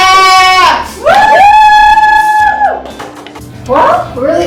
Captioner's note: cheering